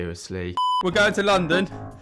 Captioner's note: beep